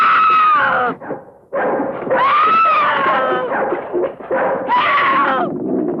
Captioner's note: screaming; barking; clattering; grunting